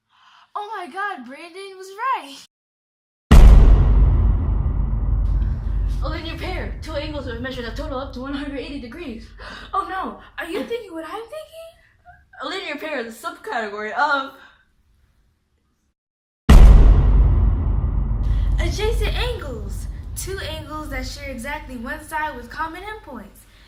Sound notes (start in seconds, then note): 14.3 awkward silence